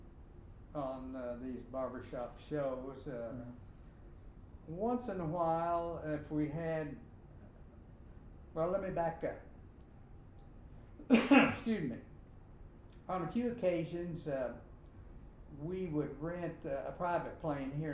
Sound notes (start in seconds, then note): 11.0 coughing